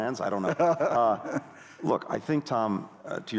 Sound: laughter

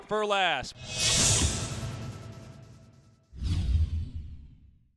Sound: sound effects

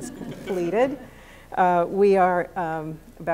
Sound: laughter

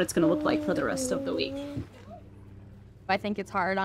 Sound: child vocalizes

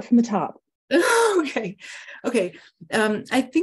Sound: laughs

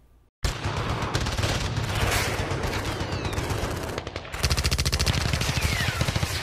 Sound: gunfire

